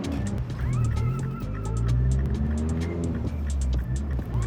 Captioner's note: engine revving